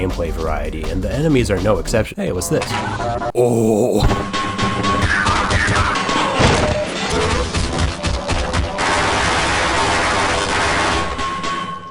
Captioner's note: pickup sound